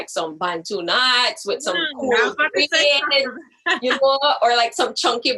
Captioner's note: laughs